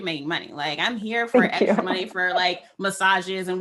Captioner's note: laughs